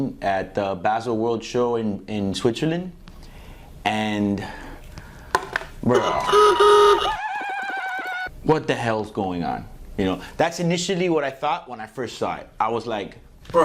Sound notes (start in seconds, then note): 5.2 eye-popping noise